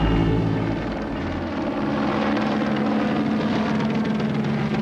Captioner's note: helicopter blades whirring